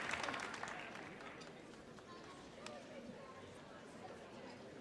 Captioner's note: audience chattering